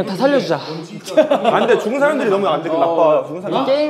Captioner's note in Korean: 웃음